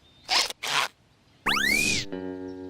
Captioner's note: squeaking